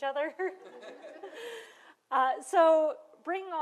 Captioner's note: laughter